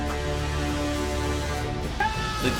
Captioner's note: cheer